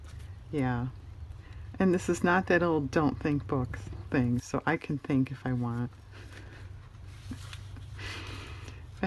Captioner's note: laughs